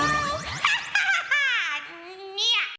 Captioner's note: cackling